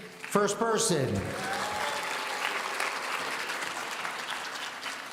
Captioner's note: audience applauding